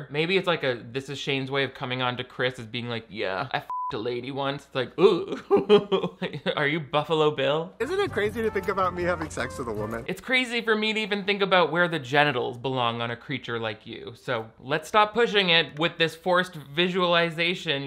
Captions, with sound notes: Maybe it's like this is Shane's way of coming on to Chris as being like, "Yeah, I (beep) a lady once." It's like, ooh! (chuckles) Are you Buffalo Bill? - Isn't it crazy to think about me having sex with a woman? - It's crazy for me to even think about where the genitals belong on a creature like you, so let's stop pushing it with this forced visualization